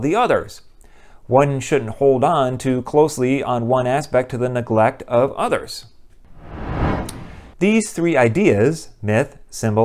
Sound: swoosh

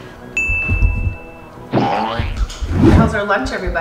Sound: bell rings

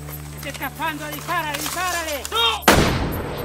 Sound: in Spanish

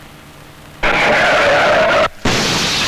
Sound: brakes squeal

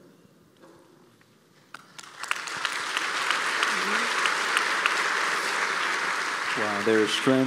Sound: applause

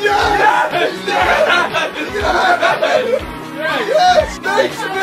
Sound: cheering

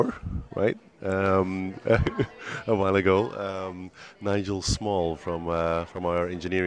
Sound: laughs

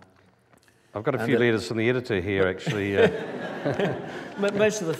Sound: laughter

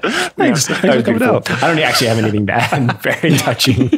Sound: laughter

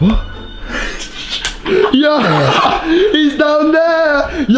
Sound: laughs

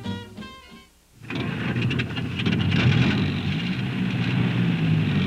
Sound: motor sounds

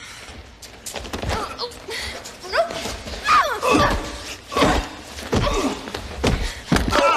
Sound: Meg grunts; man grunts

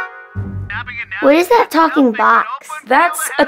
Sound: television chattering

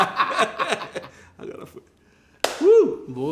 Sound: laughs

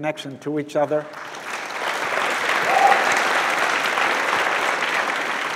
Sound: audience clapping

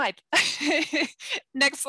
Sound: laughs

